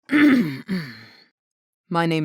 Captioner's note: clears throat